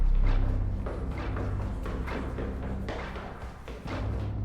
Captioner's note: running footsteps